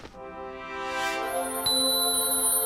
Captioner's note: dings